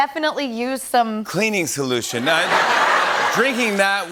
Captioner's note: laughter